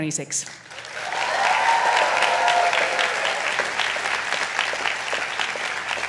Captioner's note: attendees cheering and applauding